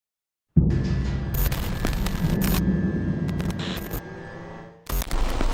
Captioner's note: logo crackling